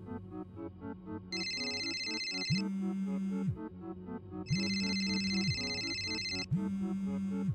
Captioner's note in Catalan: Mòbil sonant